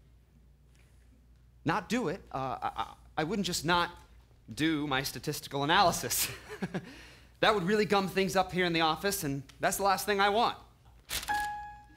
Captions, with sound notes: Not do it. I- I- I wouldn't just not do my statistical analysis. (Laughs nervously) That would really gum things up here in the office. And that's the last thing I want, (Piano Note)